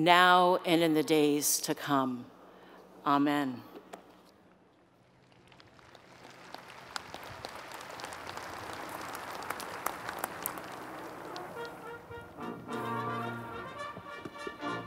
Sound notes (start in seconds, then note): 5.0 applause